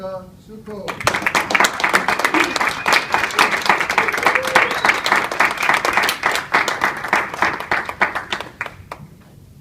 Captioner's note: applause